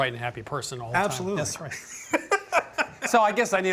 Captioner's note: laughs